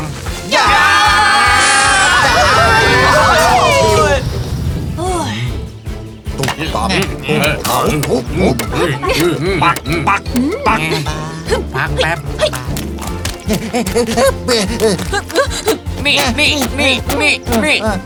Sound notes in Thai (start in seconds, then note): 5.2 ถอนใจ; 6.4 เสียงทุบ; 11.6 เสียงวิ่งบนโคลน; 15.4 เสียงทุบหุ่นฟาง